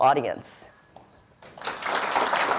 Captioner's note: audience applauds